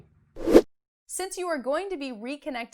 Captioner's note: air whooshing